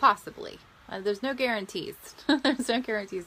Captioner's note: laughs